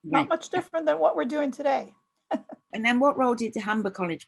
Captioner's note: laughs